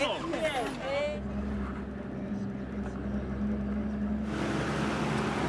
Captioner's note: people chattering in foreign language; truck engine humming